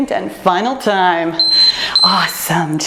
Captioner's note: timer beeps